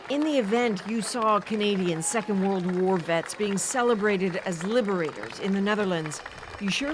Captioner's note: applause